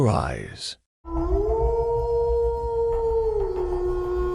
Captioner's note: wolf howling